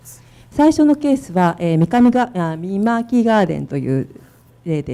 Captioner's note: speaking foreign language